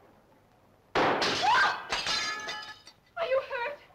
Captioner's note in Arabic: صوت طلق ناري; تصرخ